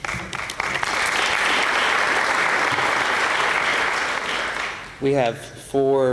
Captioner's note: applause